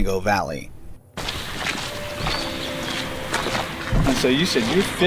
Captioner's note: birds chirping; footsteps crunching